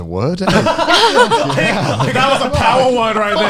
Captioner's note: laughs